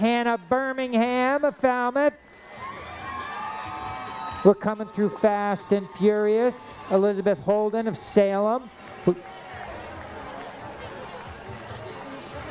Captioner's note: cheering